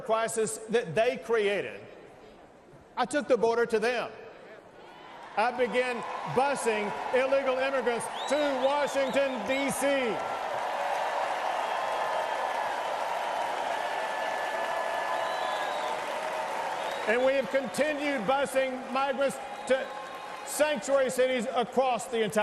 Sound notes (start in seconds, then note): 8.3 applause; 17.6 cheers and applause